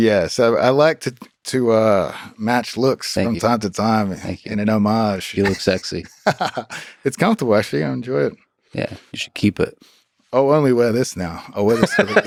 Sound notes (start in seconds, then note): 5.3 Craig laughs; 11.6 both laughing